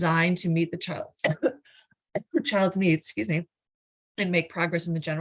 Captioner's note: coughs